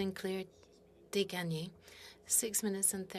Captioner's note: speaking French